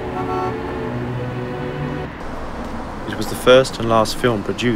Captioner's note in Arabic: صوت بوق السيارة